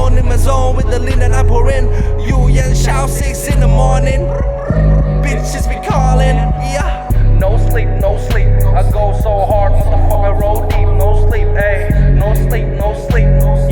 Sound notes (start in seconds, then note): 4.4 Breep breep